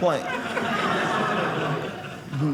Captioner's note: audience laughing